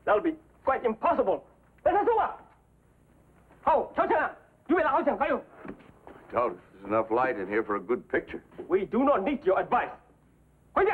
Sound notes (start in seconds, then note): 2.1 shouts command; 3.7 yelling in Chinese; 10.7 shouts command